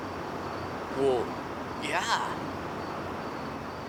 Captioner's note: none